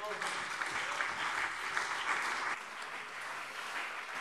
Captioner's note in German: Beifall CDU und BÜNDNIS 90/DIE GRÜNEN